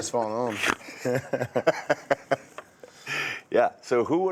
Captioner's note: all laughing